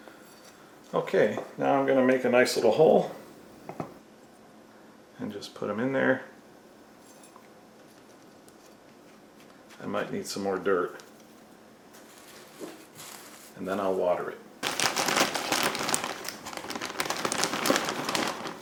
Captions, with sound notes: Okay, now I'm gonna make a nice little hole, and just put him in there. I might need some more dirt. And then I'll water it. [plastic crumpling sounds...]